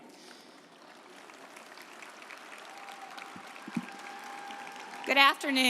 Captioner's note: audience applauding